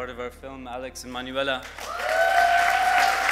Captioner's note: applause